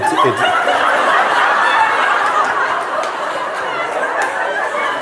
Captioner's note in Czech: smích